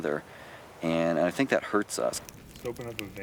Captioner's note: voiceover